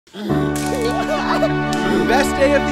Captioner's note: laughs